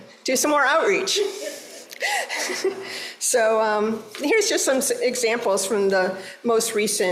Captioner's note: laughter